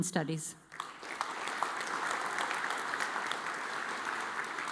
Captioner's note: audience applauds